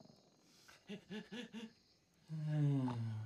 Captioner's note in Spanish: exhala repetidamente; exhala profundamente